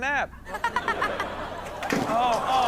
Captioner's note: Chanel chuckles; all groan